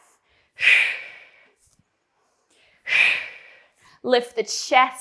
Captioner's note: breathing sharply